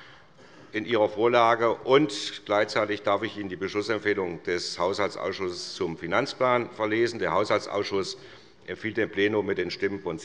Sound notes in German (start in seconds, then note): none